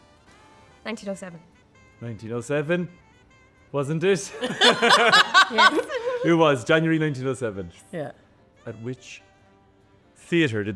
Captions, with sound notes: - 1907. - 1907. Wasn't it? (laughs) - Yes - It was January 1907.